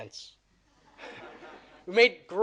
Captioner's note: audience laughing